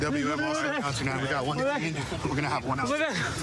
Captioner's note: excited chatter